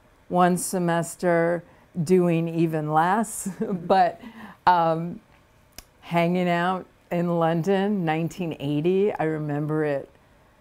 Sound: laughs

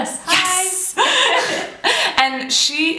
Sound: laughter

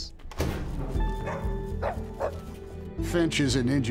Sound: door opening

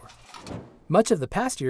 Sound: whoosh

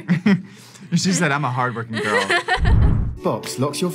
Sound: laughs

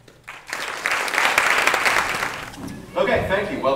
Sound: applause

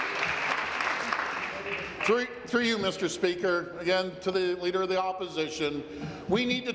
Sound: applause

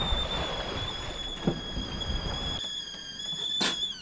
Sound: teapot whistling

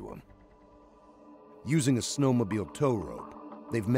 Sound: voiceover

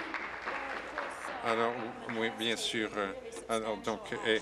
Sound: applause

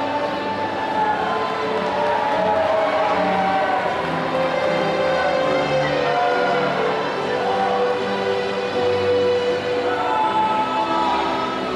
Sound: applause

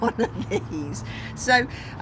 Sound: laughter

